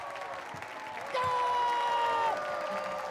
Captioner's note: applause; screams